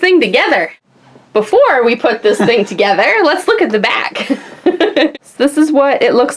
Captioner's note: laughs